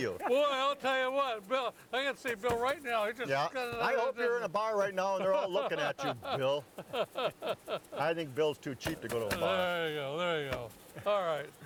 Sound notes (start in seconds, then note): 5.2 laughing